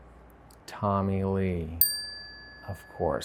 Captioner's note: bell dings